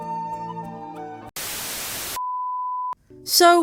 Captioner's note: static